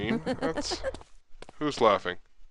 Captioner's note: woman laughing